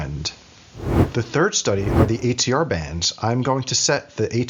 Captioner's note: whooshing